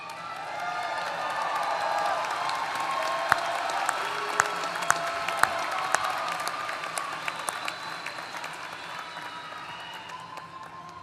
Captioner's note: applause